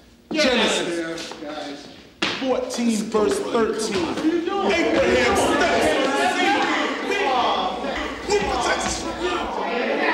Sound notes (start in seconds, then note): 4.2 students clamor in protest